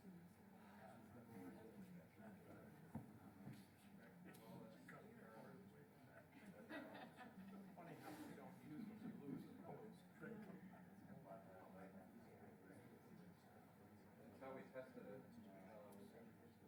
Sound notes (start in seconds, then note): 6.3 laughter